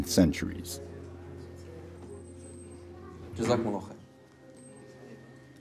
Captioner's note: speaking in a foreign language